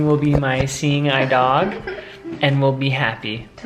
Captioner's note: chuckles